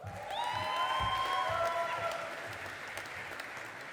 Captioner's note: audience applauding